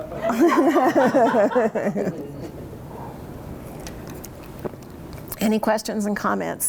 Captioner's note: laughter